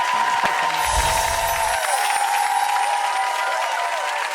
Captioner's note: applause